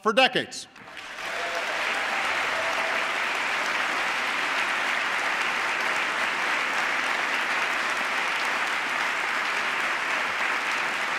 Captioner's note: applause